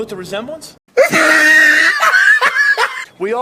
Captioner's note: guy gag-laughing